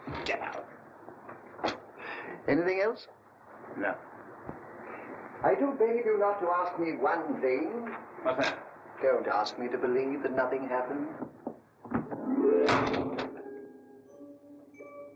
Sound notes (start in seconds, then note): 11.9 book thuds against door; 12.0 dramatic music; 14.1 melancholy music